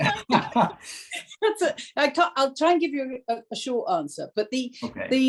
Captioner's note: laughter